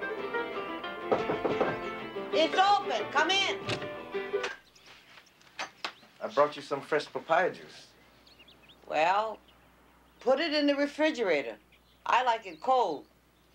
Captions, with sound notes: [HAWAIIAN MUSIC PLAYS] [KNOCK ON DOOR] IT'S OPEN. COME IN. I BROUGHT YOU SOME FRESH PAPAYA JUICE. WELL, PUT IT IN THE REFRIGERATOR.